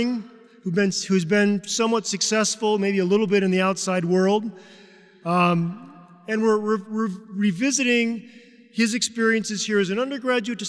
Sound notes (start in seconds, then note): none